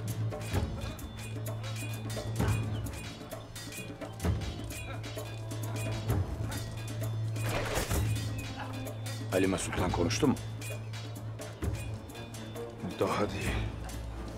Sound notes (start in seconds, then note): 0.2 Müzik - Vurmalılar; 5.6 Kılıç sesleri